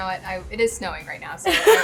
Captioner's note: laughing